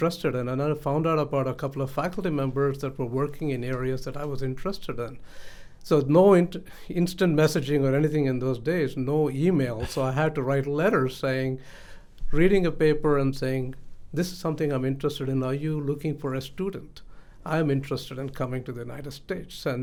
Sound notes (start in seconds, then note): 9.8 laughs